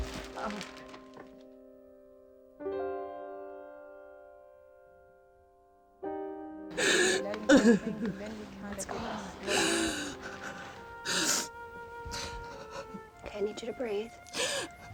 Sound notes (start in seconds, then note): 6.8 crying